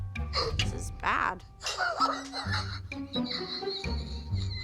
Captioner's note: Abby laughing